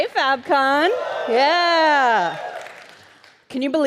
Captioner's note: audience cheers